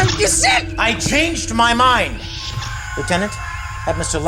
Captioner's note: chekov screams